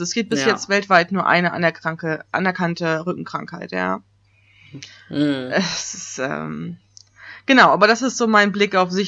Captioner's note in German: ironie